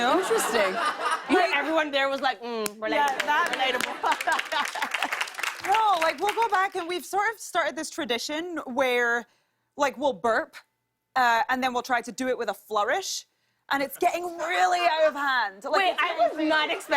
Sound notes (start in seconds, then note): 0.0 laughter; 2.9 laughter and applause